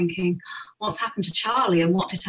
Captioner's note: gasps